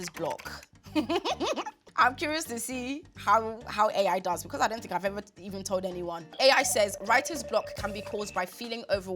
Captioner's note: laughs